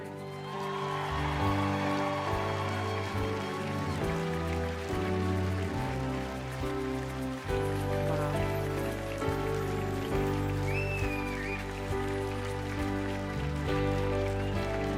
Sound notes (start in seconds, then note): 3.5 applause